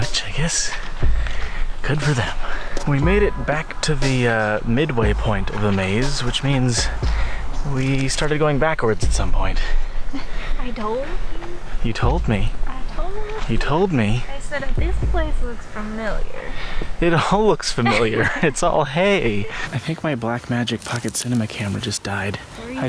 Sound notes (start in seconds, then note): 18.2 laughing; 19.2 laughs